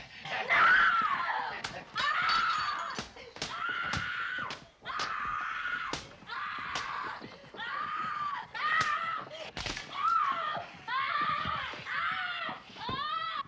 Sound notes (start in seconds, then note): 1.7 screaming